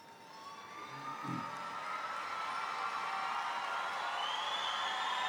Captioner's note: audience applauding; audience cheering